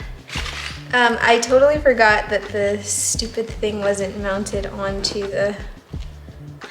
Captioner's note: laughs